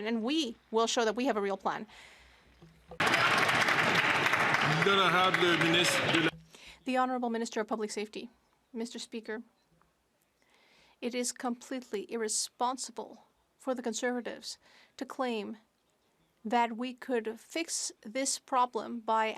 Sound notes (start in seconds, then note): 5.6 some Applause